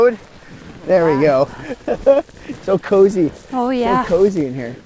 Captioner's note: laughs